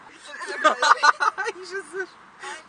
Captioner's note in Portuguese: Risos